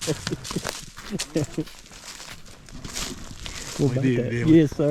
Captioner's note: laughing